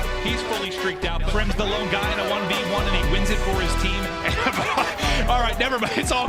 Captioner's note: laughs